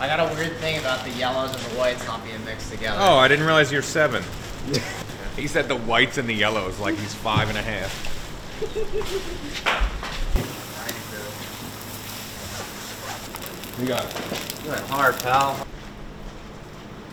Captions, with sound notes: - I got a weird thing about the yellows and the whites not being mixed together. - Oh, I didn't realize you were seven. He said, "The whites and the yellows," like he's five and a half. (friends chuckling) (food sizzling) - Look at that carb, pal.